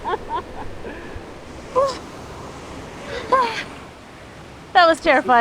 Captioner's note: laughs; whimpers